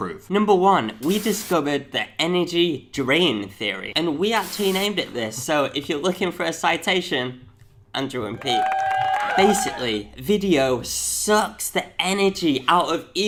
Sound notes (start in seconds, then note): 8.3 cheering